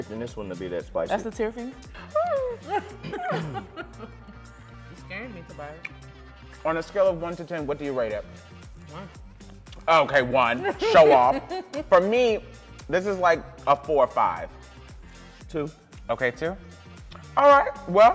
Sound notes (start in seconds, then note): 2.0 laughing